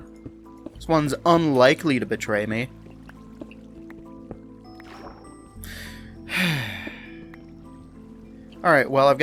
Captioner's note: sigh